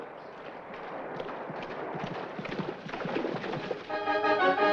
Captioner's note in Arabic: ضربات حوافر; موسيقى ملكية درامية